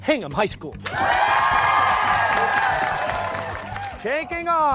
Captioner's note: cheers and applause